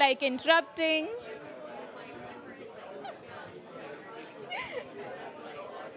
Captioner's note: chatter